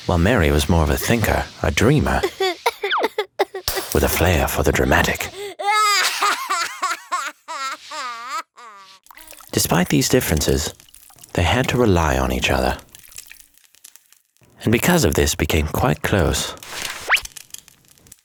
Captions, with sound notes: While Mary was more of a thinker, a dreamer. (Mary cries) With a flair for the dramatic. (Mary bawling) Despite these differences, they had to rely on each other. And because of this became quite close.